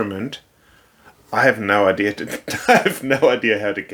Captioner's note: laughs